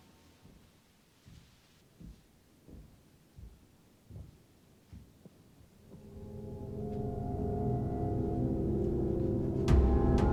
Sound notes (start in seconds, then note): 2.1 footsteps approach; 5.8 suspenseful music